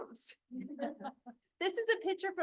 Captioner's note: board members laugh